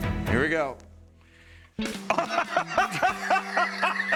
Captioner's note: laughs